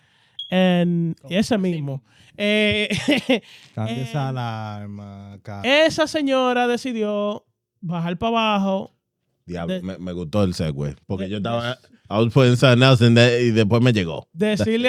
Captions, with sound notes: And, yes, amiimo. (Laughing) (Speaking In Foreign Language) I was putting something else in there, either for me to go.